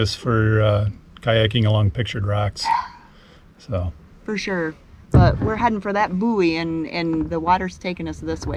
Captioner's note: gasp